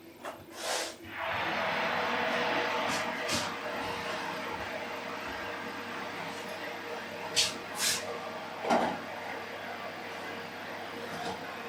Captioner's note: oven roar